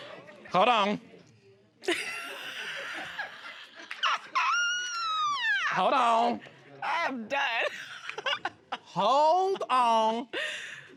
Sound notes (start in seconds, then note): 0.0 laughing; 1.9 laughing; 7.0 all laughing